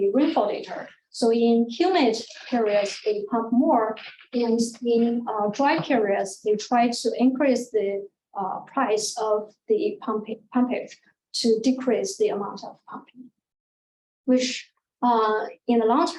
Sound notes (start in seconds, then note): none